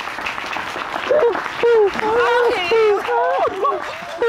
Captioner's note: audience applauding